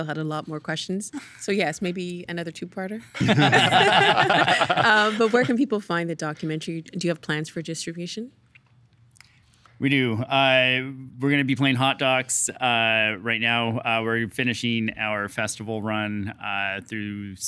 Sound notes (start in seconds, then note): 3.2 all laughing; 3.2 laughing